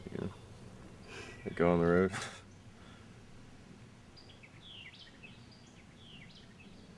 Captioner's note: laughs